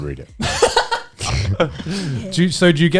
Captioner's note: laughs